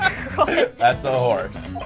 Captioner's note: laughing; laughs